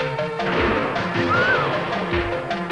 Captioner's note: gunshot